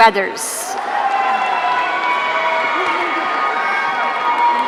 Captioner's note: audience cheering